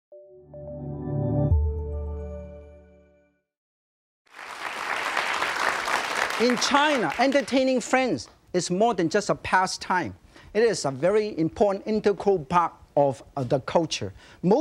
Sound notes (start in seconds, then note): 0.1 joyful music; 4.2 audience applauding